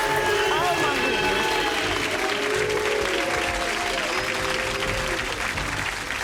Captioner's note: booing and cheering; dramatic music